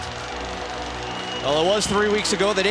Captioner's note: crowd cheering